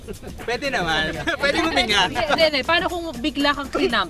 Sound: laughs

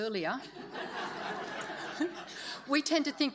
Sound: audience laughs

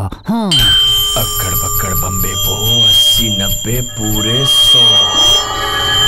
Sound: clinking

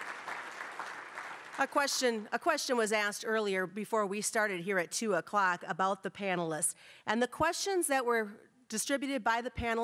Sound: applause

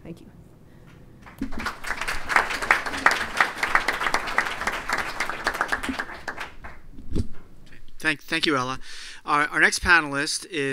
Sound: applause

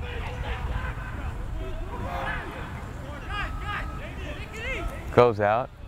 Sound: players talking and yelling

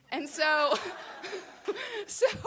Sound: laughter

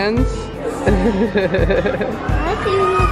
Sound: both laughing

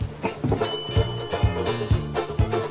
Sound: bell dings

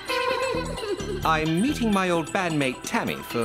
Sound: giggling

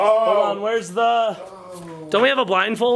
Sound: groans

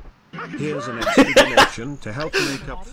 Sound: laughing again

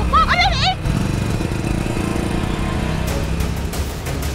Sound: bike revving

